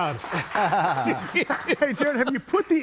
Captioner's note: both laugh